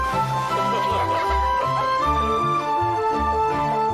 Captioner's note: laughing